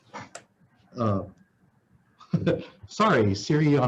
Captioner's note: laughs